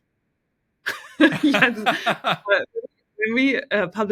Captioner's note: both laughing